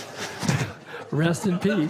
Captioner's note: laughing